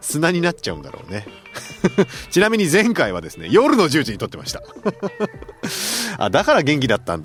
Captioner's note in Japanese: 笑い